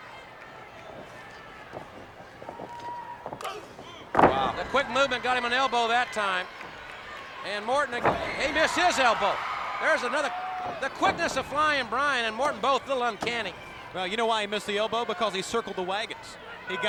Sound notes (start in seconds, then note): 0.2 blows thudding; 0.2 footsteps plodding; 3.5 body thudding; 6.7 body thudding; 10.4 body thudding